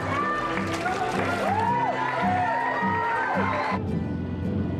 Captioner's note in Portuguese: apoio e acarinhamento do público